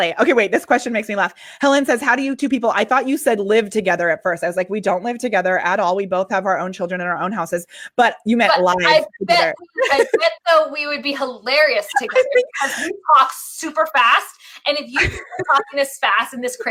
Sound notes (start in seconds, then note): 8.5 laughs; 11.8 laughs